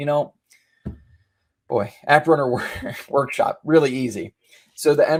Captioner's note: chuckles